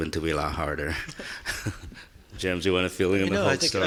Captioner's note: laughing